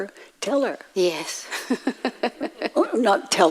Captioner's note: laughs